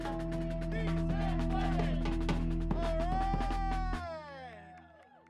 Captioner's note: people protesting